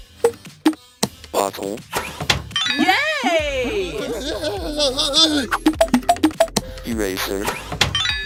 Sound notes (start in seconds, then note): 2.7 impatient sounds